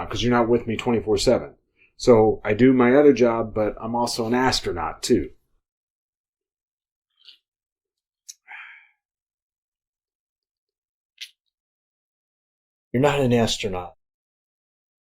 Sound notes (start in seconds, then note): 7.2 sips; 8.2 soft lip smack